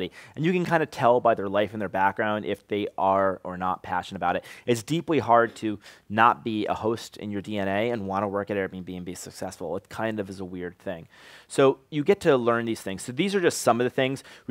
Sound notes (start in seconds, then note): none